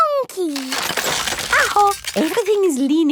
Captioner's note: house creaking